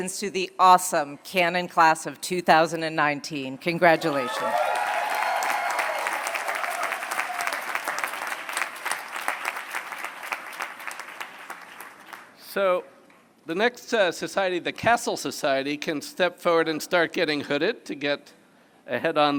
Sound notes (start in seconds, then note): 4.0 applause